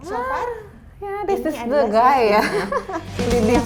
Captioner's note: laugh